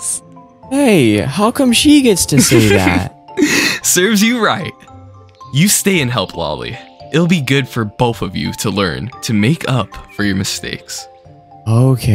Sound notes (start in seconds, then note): 2.3 laughs